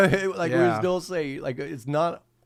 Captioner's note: laughing